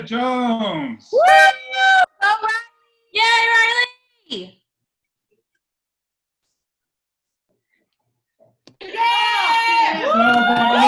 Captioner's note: cheering